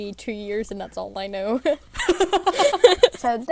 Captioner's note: hosts laugh